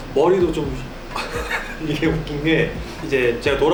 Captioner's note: suddenly bursts out laughing at the thought